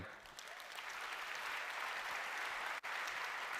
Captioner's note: applause